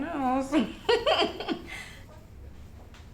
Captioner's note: dry laugh